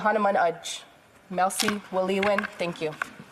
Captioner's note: speaking French